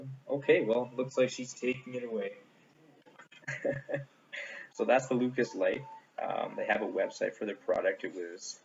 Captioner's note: chuckles